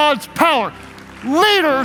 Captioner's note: clapping